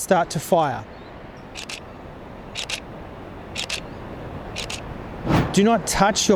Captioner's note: camera shutter sounds